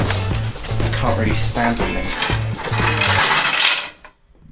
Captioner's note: crash